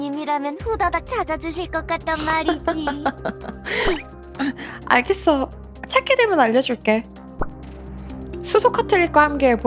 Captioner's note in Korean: 웃음